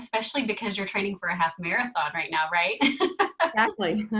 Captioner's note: laughing